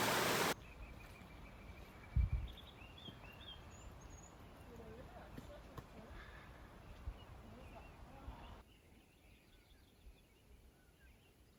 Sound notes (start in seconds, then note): 3.3 birds chirping